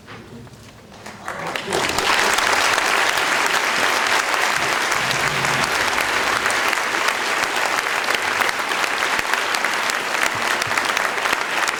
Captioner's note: applaudissements; applaus